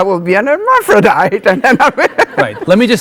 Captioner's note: laughing